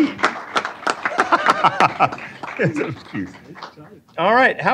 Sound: applause; laughing

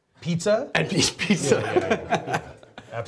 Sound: laughs

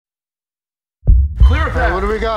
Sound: heartbeat

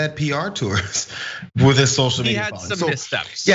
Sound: laugh

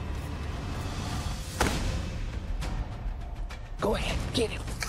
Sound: gunshot

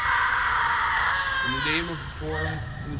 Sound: Carly screaming

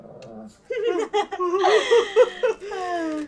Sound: mocking laughter

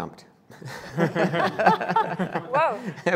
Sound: laughing

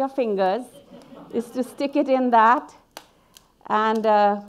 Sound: audience laughing

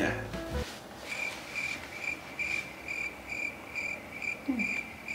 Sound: crickets singing

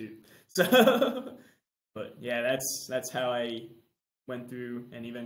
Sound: laughs

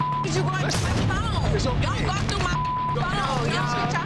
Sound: beep

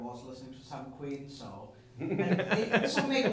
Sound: laughing

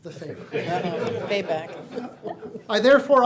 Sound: laughs

